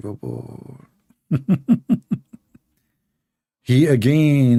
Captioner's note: Ketawa